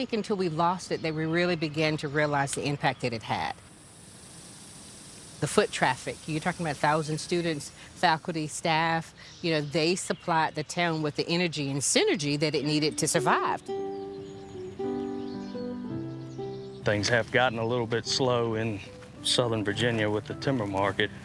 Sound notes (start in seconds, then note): 3.4 cicadas humming; 13.5 reflective music